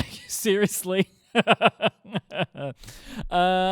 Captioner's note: laughter